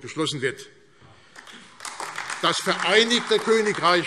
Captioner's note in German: Beifall AfD